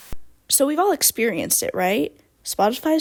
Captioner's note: end radio voice